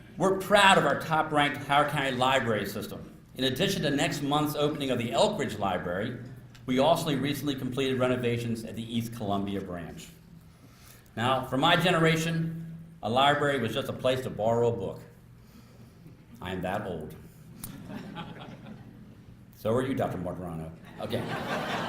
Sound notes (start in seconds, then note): 17.6 laughter